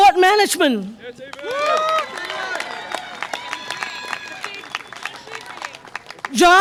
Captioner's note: audience applause and cheer